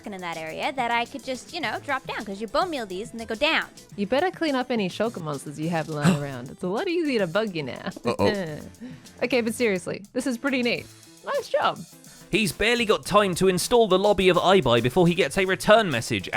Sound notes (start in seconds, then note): 6.7 gasps